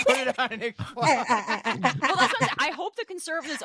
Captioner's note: laughing